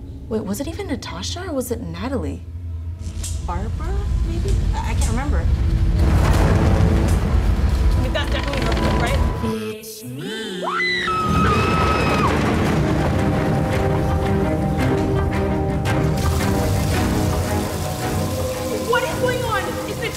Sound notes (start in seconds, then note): 5.7 loud rumbling; 10.6 screams; 12.9 dramatic music